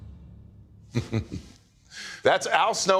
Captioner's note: chuckles